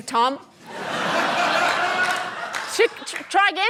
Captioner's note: laughter